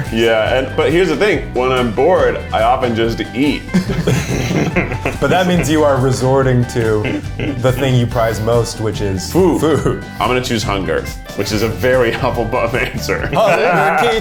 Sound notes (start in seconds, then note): 3.7 all laugh